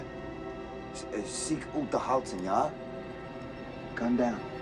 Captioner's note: Sinclair speaking in foreign language